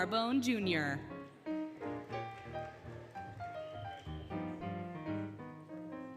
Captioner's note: applause, Cheering, Music